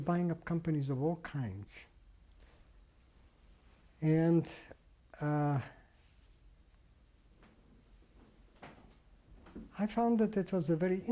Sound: pauses for 3 seconds

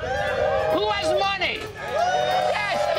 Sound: cheers

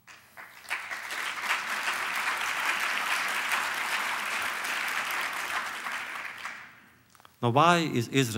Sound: applause

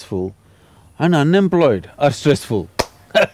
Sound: claps; laughs

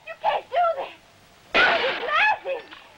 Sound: glass shattering

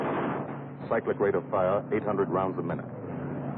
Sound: gunfire

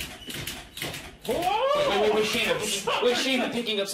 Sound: bed creaking building; yelling

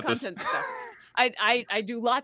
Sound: laughs

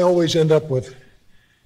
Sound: none

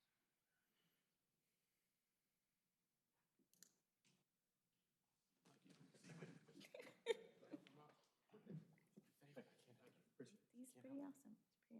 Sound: laughter

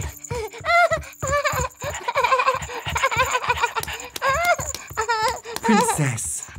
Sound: giggles

